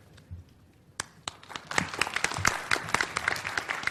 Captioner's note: applause